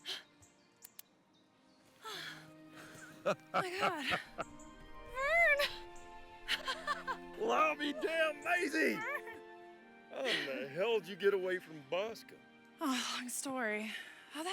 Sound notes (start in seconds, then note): 2.8 Vernon laughing